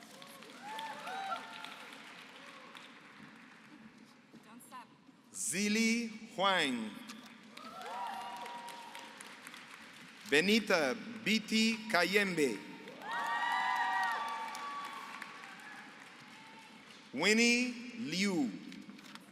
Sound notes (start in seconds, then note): 0.0 applause; 7.6 applause; 12.8 applause